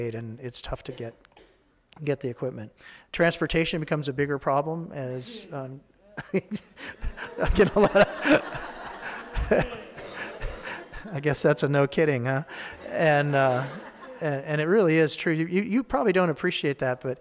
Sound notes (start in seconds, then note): 6.1 laughs; 9.0 audience laughing